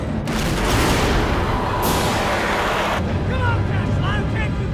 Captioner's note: explosion booms